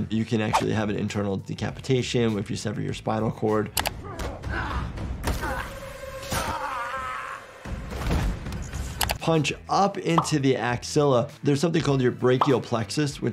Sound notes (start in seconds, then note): 4.0 grunting, shouting